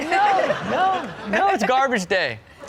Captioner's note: crowd laughs